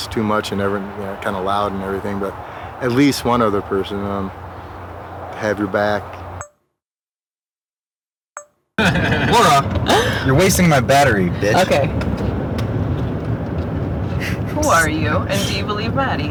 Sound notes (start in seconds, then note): 8.8 laughing